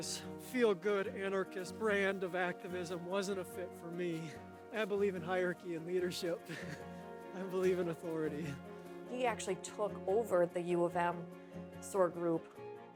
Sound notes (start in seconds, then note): 6.3 chuckles